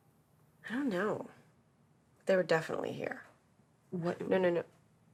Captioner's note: none